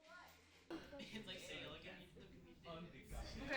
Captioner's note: class talking